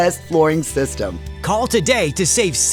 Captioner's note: voice-over